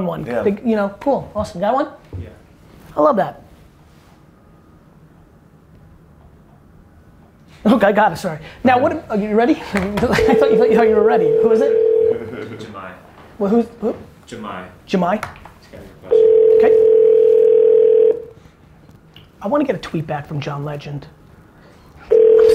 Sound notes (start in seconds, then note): 10.1 phone ringing; 12.0 laughing; 16.1 phone dialing